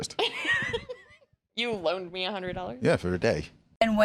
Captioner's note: laughs